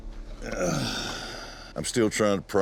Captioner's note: grunting